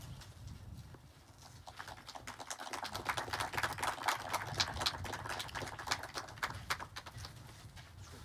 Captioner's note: aplodeja